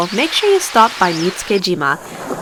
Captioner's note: birds chirping